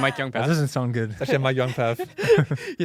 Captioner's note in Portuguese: risos